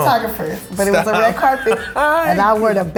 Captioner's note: laughs